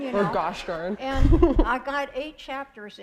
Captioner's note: laughter